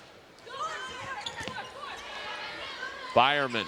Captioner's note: players yelling